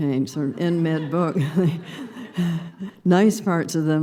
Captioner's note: laughter